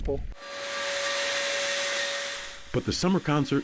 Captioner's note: steam Engine